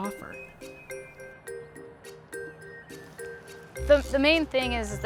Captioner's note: traffic humming; light tense music